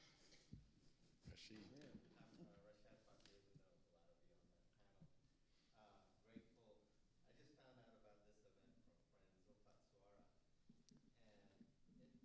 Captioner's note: different audience member speaking quietly